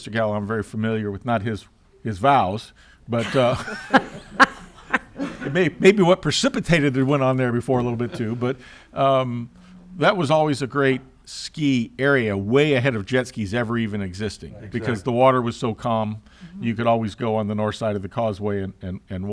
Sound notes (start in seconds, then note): 3.2 members laughing